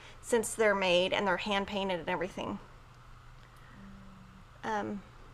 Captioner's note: none